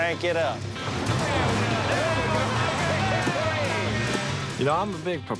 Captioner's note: cheering